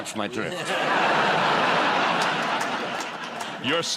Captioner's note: laughter